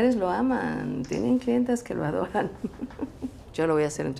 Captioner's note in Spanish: Ríe